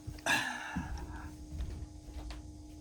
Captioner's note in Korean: 한숨; 헉 소리